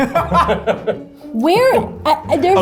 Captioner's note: laughs